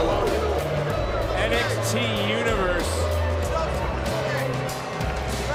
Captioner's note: crowd boos